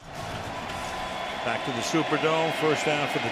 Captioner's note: cheering